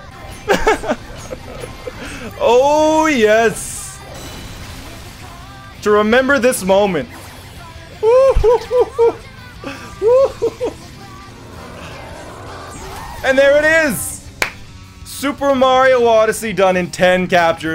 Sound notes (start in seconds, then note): 0.4 laughs; 9.6 excited noises